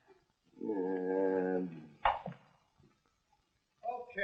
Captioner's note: groaning